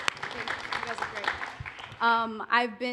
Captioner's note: applause